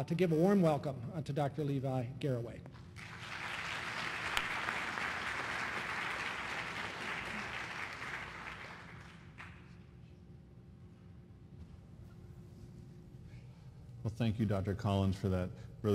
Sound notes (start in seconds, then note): 2.9 applause